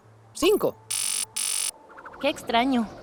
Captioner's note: box buzzes